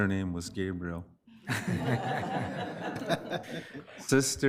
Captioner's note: all laughing